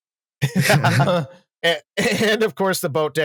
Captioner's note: laughter